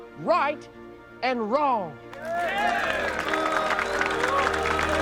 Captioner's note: applause